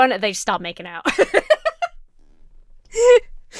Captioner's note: Emma laughs